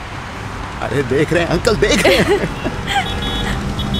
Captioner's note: Giggling; Traffic noise